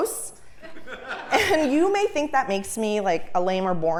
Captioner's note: laugh